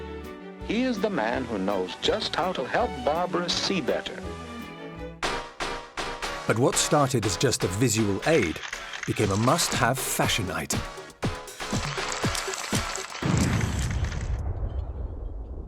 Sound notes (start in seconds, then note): 11.1 camera shutters clicking